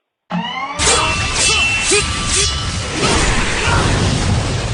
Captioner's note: combat noises